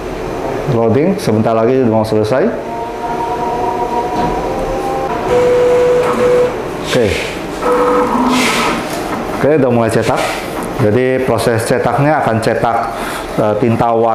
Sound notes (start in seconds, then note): 2.4 praying sound; 4.9 printer machine sound